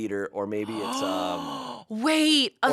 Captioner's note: gasps